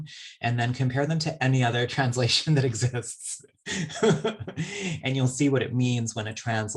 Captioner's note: laughs